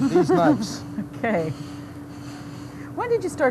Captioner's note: laughs